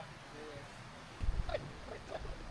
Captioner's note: chuckling